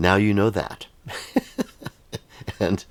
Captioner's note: laughs